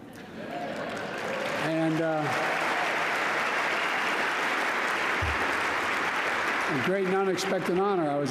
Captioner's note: applause